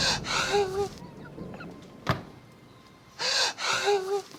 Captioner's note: door slams; Mac sobs